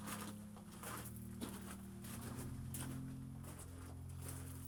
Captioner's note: walking footsteps